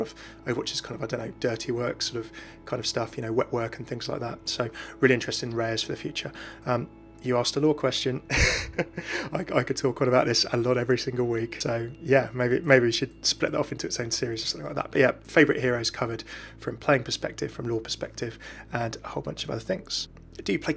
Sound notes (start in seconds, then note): 8.3 laughs